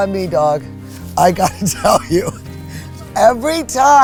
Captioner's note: laughs